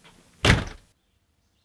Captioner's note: door slams